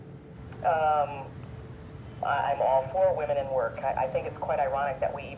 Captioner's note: woman On Radio